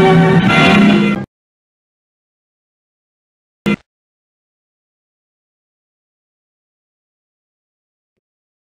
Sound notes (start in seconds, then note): 4.2 silence